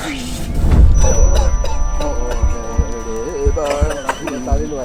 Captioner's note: high pitched ringing